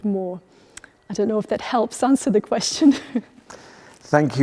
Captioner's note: laughs